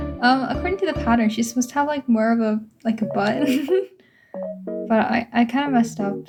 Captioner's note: awkward laugh